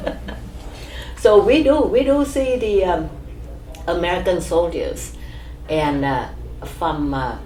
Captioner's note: laughs